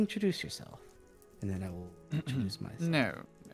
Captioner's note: clearing Throat